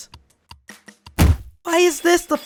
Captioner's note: angry thud